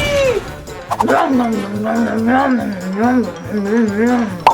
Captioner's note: eating sounds